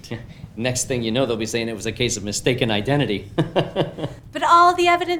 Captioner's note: laughs